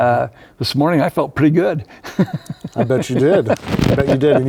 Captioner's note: laughs